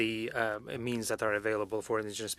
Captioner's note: speaking French